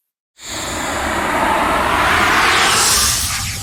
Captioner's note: air whooshing